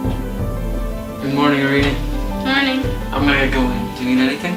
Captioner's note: knocking